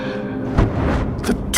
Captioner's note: flames flaring